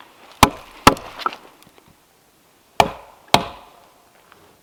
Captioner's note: hammer thudding